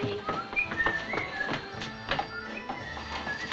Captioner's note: neeley whistling